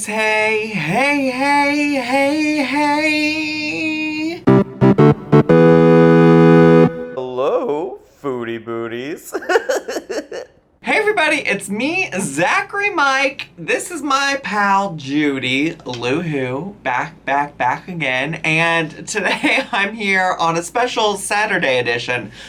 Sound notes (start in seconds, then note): 4.4 electronic music; 9.3 chuckling